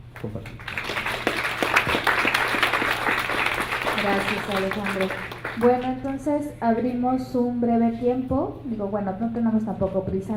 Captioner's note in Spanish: Aplausos